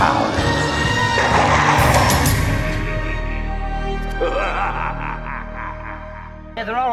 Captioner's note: thunderclap, evil laughter